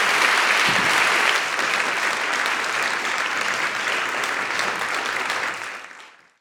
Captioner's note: audience applauding